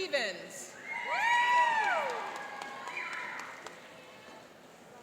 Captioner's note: cheering and applauding